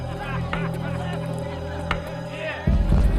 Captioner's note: bat tapping